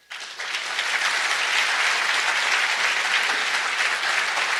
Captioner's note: audience applauds